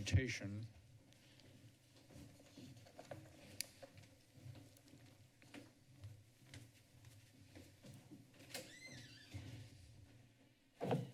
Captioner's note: silence